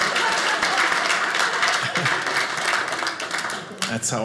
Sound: audience laughing

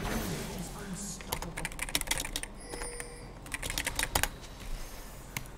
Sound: typing

